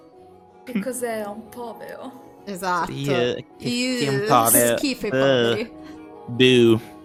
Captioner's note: snobby voice